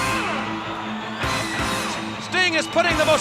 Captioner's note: upbeat rock music continues; crowd cheering